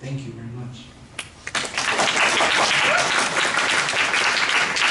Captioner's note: applause